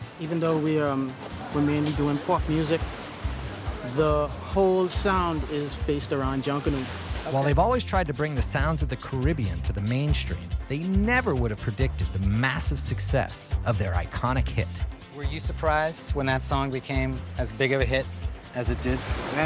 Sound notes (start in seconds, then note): 7.5 voiceover